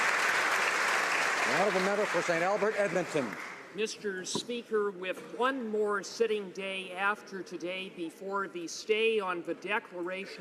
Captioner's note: applause